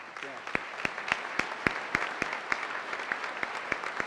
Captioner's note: applause